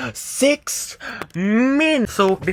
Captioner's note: breathes in